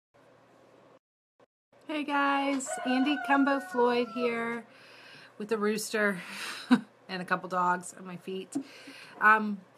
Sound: rooster crows in the background

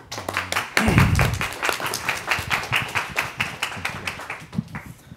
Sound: audience clapping

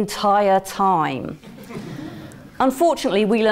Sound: laugh

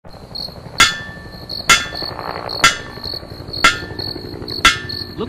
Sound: metal clanging; helicopter whirring sound from Pyridine's trocar and hair flapping

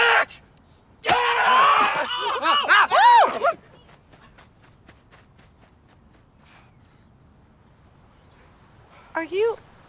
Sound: screams

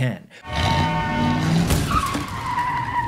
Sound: engine revving; car horn; crashing and tires screeching

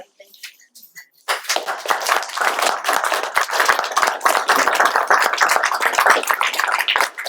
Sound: applause

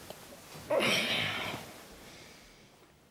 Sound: grunts

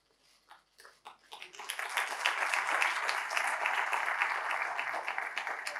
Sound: audience applauding

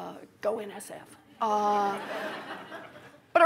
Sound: laughter

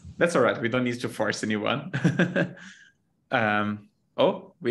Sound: chuckles

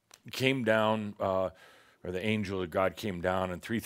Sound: none

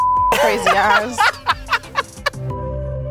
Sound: laughing; fun music

